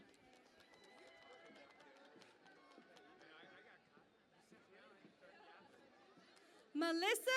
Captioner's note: cheering and Applause